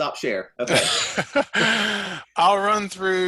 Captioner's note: laughs